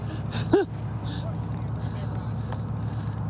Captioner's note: chuckles